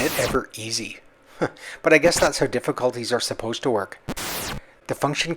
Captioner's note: chuckles